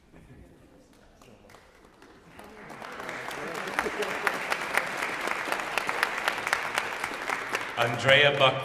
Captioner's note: applause